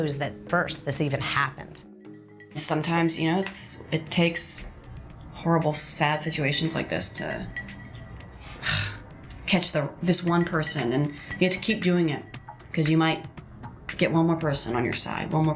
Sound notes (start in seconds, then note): 8.5 sigh